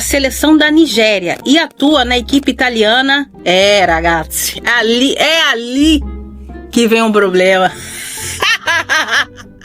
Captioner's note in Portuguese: risadas